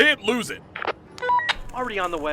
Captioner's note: walkie talkie